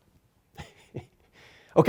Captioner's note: laughing